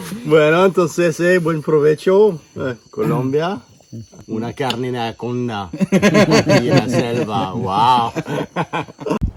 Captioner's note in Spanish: risa